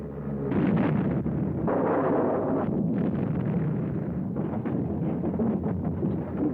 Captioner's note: explosions